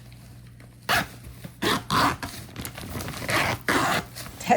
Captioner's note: sound of zipper closing